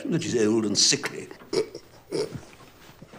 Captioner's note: snickers